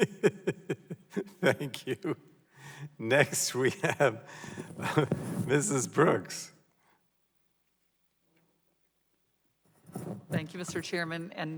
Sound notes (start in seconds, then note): 2.7 laughter